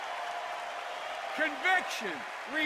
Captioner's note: applause